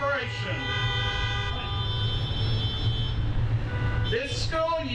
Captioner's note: horns honking